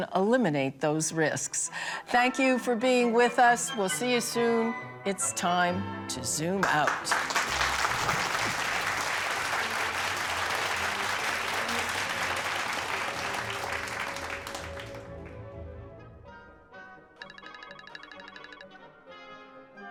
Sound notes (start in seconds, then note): 8.4 audience applauding; 8.4 theatrical music; 15.4 theatrical music continues